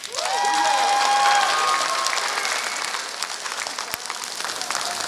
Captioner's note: applause